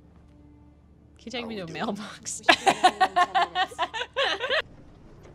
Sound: laughter

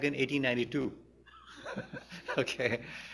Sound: laughs; laughter

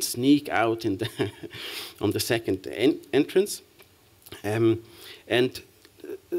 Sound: chuckles

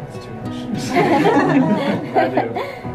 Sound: laughter

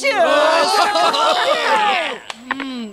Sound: clapping and cheering

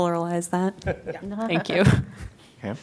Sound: laughter

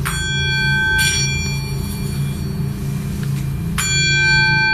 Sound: bowl ringing

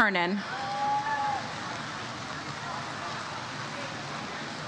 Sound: audience cheers

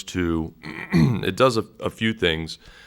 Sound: clears throat

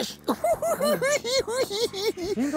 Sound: cackling

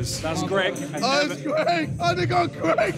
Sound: laughing

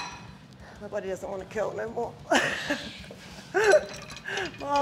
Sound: laugh

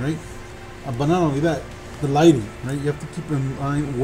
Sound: voice muffled

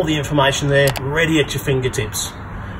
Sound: click sound

